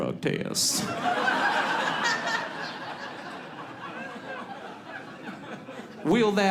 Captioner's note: audience laughs